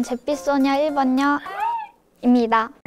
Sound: inhales

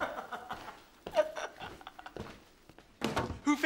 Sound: laughs

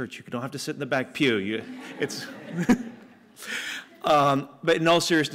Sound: laughter

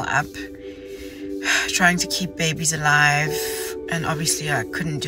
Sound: sighs

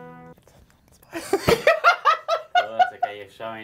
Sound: both laugh

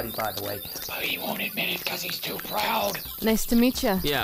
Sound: whispers

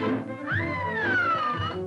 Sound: screams

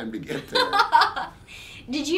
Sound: laughing

